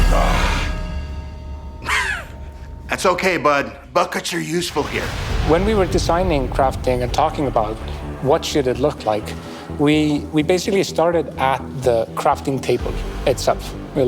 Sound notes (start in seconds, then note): 1.8 coughs